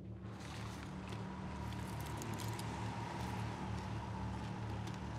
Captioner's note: car approaches